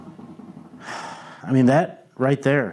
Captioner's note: sighs and gasps